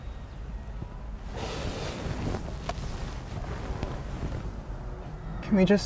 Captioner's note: car seat rustling